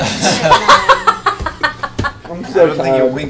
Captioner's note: laughter